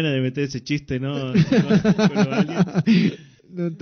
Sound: laughs

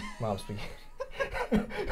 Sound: laughing

